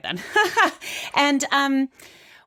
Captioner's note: laughing